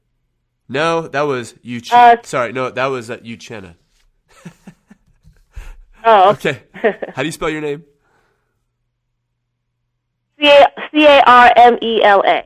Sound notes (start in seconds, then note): 4.3 laughter